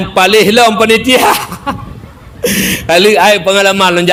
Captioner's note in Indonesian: tertawa